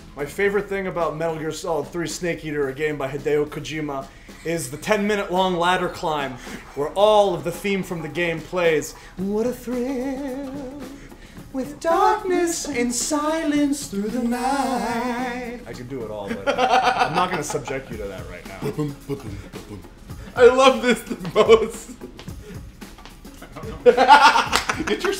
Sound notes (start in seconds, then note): 16.2 laugh